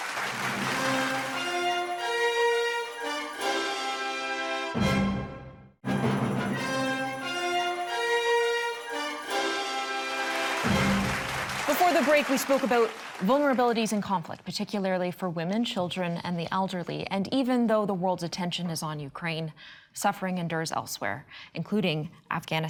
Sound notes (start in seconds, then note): 0.0 audience clapping; 3.8 bright upbeat music; 10.0 audience clapping